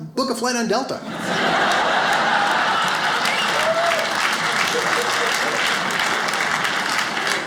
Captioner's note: audience laughs; audience applauds